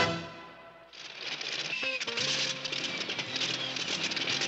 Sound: rattling

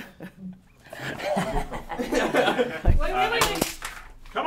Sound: laughter

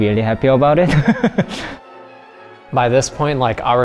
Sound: laughs

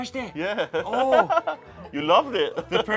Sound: laughs

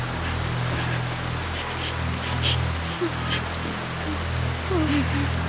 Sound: traffic sounds

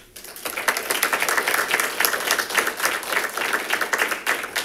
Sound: congregation claps

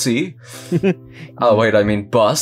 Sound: chuckles

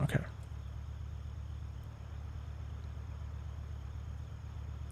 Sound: crickets

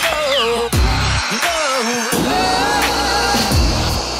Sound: upbeat music; saw slicing

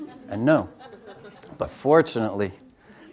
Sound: audience chuckles

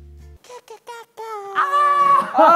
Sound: screaming~

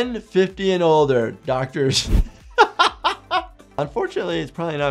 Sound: laughing

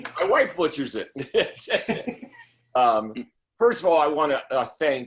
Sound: laughter

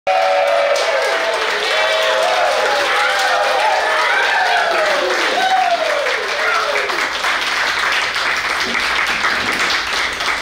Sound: clapping & Cheering

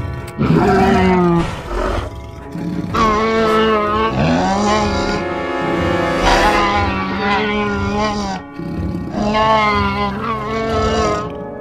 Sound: both continue to growl at each other

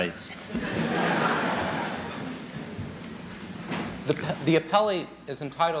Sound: laughter

